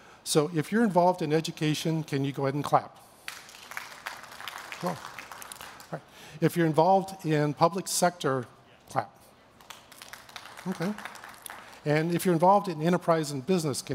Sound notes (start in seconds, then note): 3.2 clapping; 9.6 clapping